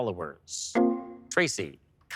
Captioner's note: electric chime